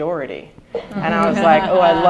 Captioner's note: laughter